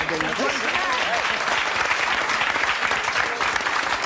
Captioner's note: applause